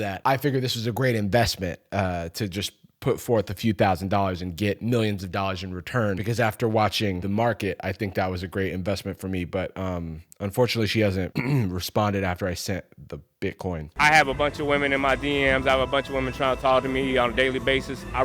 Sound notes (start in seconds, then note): 11.3 clears throat